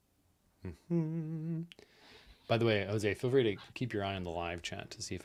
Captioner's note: hums